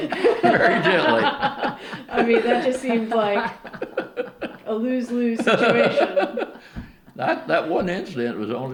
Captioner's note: laughter